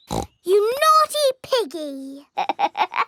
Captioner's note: snorts; laughs